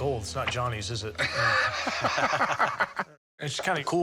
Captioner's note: laughter